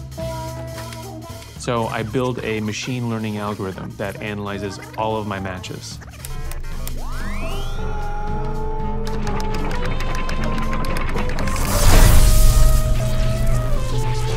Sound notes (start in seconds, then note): 6.3 machines beeping, whirring; 9.3 electricity crackling